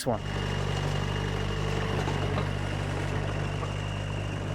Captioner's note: engine rumbling